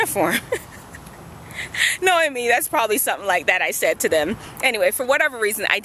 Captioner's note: laughs